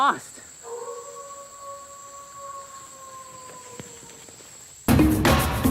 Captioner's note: howling